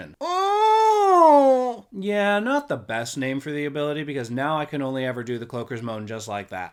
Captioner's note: moan